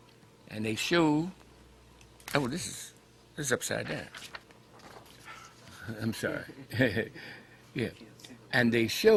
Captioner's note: Rire